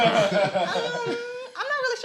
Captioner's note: all laughing